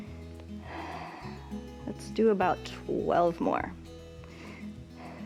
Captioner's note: exhales